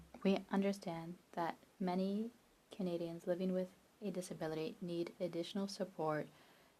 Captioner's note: speaking French